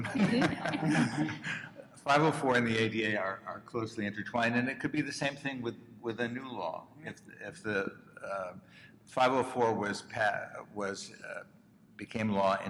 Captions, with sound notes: (panelists laughing) 504 and the ADA are closely intertwined. And it could be the same thing with a new law. If the 504 was became law in 1973,